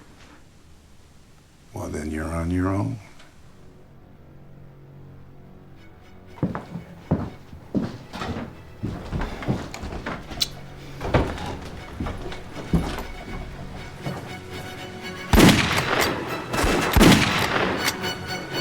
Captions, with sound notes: Well, then you're on your own. [GUNFIRE]